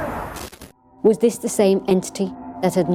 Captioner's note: disembodied Voice